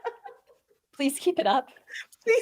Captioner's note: laughing